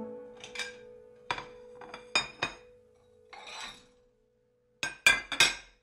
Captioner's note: dishes clatter